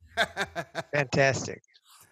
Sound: laughs

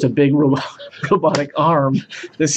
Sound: laughing; starts laughing

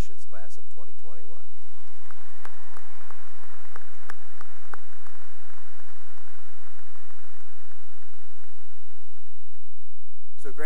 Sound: cheering and applause

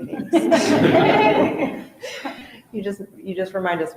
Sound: all laughing loudly

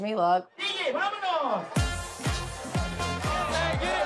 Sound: foreign language; dance music starts

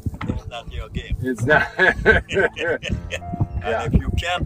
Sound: laughs

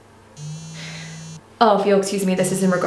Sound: phone vibrates

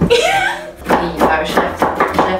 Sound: laughter; rhythmic chopping

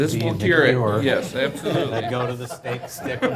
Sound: laughing

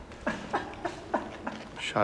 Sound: laughing

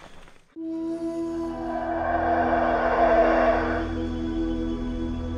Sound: monkeys roaring & birds chirping

